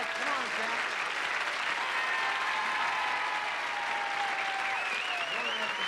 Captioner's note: audience cheering